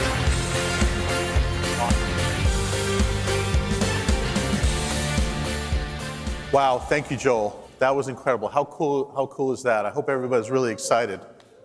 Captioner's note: cheers and applause